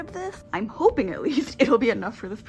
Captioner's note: laughing